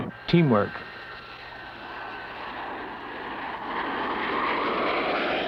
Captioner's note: jet taking off